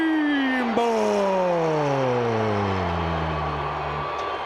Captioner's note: crowd cheering